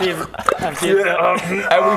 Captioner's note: slurp